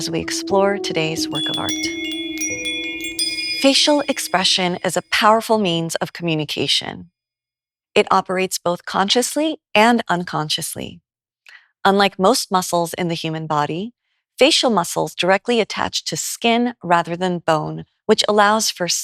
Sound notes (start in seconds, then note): 1.3 bells chime